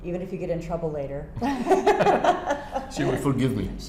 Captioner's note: laughter